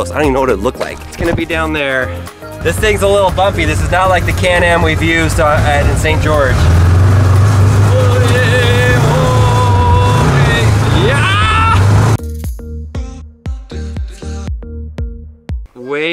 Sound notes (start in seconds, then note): 5.3 motor revving; 7.8 excited yelling; 12.7 funky music